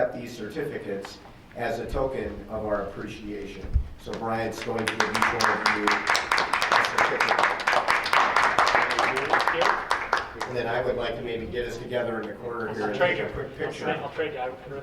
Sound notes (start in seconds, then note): 7.5 applause